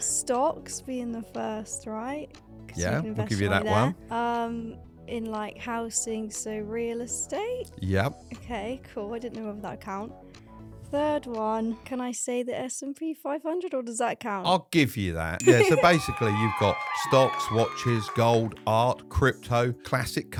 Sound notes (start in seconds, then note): 15.4 bell dinging; 15.4 crowd cheering